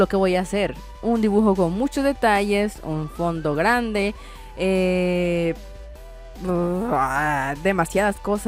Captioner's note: grouns like a monster